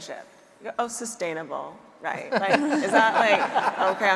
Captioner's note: audience laughing